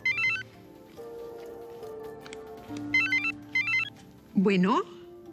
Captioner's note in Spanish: Suena el celular